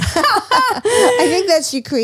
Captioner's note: all laughing